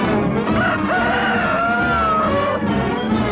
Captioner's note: rooster crows